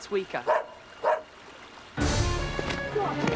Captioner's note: Spot barking